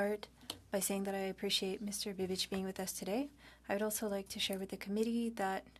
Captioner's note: speaking French